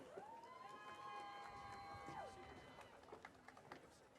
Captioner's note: audience cheering